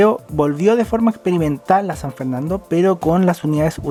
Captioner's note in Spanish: none